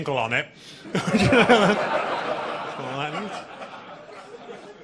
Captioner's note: audience laughing